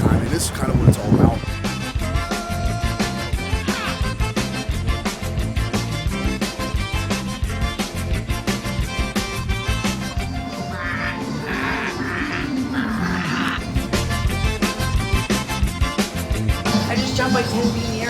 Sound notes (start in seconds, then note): 1.7 reggae music playing; 10.4 quacking sound; 13.9 reggae music playing